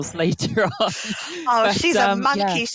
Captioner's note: laughter